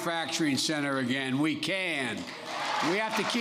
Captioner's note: applause